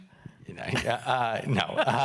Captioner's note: laughing